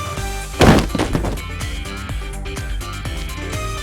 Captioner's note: thud!!